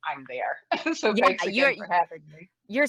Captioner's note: laughs